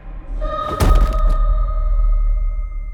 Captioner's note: shoe whacks; tense music